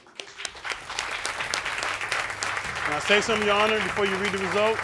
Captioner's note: audience clapping